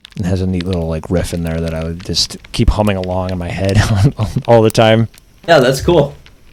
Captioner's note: laughs